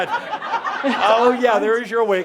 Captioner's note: laughter